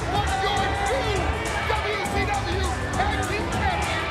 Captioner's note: presenter speaking faintly off mic